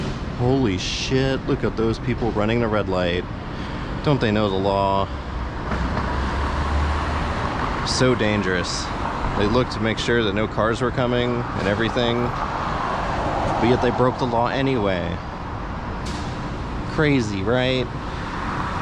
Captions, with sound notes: Holy shit! Look at those people running the red light! (Sarcasm) Don't they know the law?? So dangerous... They looked to make sure that no cars were coming, and everything... But yet they broke the law anyway!! Crazy, right??